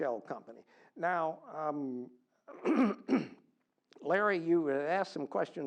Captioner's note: cough